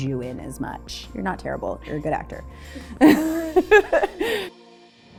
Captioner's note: laughs